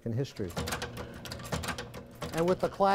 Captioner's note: machine stamping metal